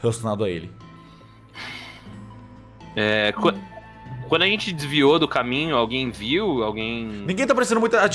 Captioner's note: sigh